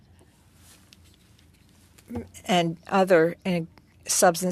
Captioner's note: speaking French